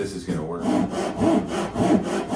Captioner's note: saw whirring